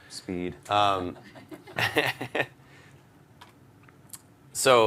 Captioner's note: laughter